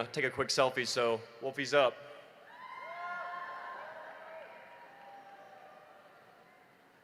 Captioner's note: applause